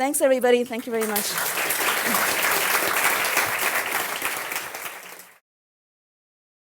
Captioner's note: applause